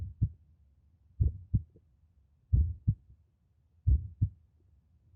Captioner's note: heart beating